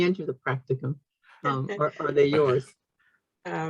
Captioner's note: chuckles